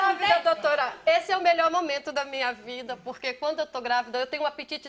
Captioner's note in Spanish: habla en portugués